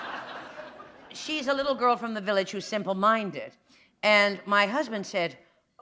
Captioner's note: laughter